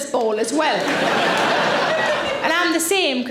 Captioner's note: audience laughing